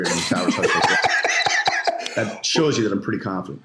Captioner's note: laughs